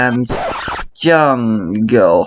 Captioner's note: record scratch